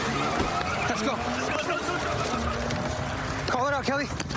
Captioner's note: shouting